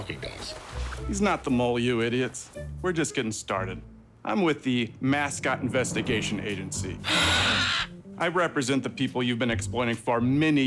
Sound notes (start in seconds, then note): 7.0 bird squawks; 7.0 mascots gasp